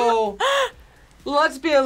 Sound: gasps

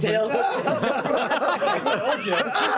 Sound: laughter

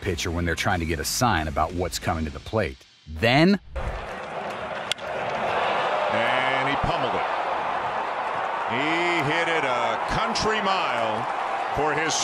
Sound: audio of home run call

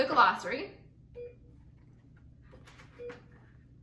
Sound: beeping

